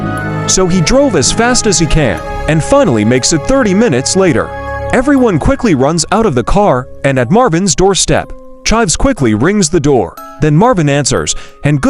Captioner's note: bell